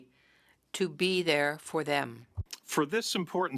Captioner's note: speaking French